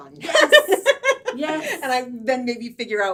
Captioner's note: laughing